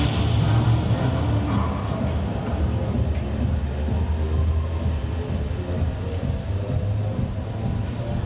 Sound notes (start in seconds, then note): 0.0 brakes squeal; 1.2 engine revs